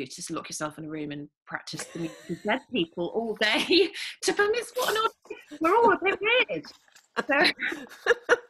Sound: laugh

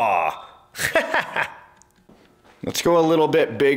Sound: laughing

